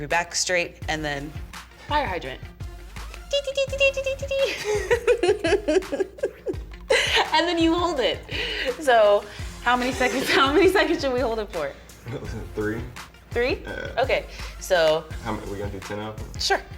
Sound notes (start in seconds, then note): 3.3 chiming noise; 4.0 laughs